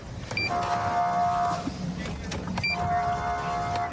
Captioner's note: horn blaring